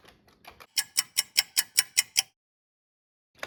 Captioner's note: sound of a ticking clock